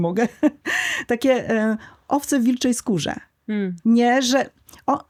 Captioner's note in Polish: śmiech